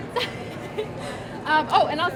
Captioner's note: laughs